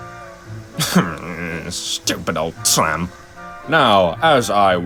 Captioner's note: quiet grunts